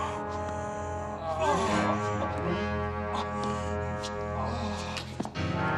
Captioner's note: groans